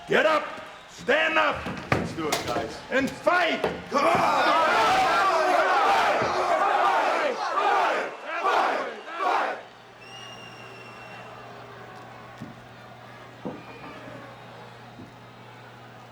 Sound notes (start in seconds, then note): 3.9 group chattering; 10.8 audience chattering